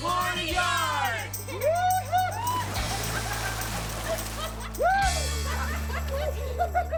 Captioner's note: cheering and laughing; water splashing